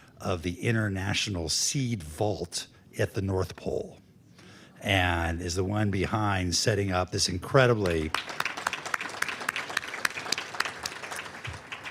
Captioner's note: applause